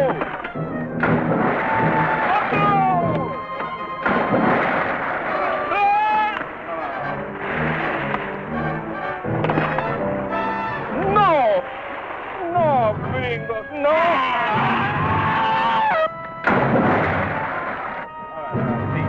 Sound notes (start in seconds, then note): 0.0 water splashing; 0.2 man speaking in Spanish; 2.0 water splashing; 3.2 man speaking in Spanish; 14.0 screams; 14.4 water splashing